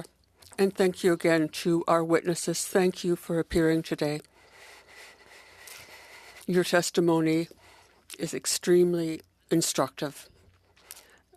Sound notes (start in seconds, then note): 2.3 speaking French